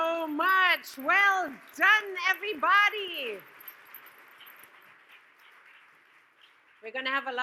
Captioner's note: audience claps